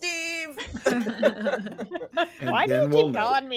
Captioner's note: cast members laughing